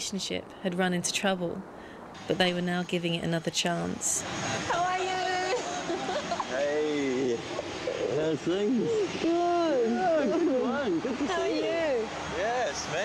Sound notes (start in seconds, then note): 5.4 giggles